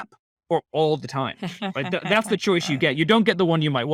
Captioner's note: laughing